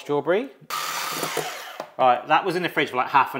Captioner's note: mixer whizzes